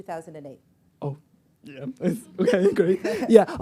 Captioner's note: chuckles